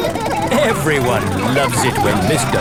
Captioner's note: laughing